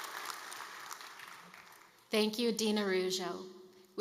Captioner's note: applause